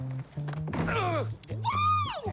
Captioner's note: sounds of struggle; hoots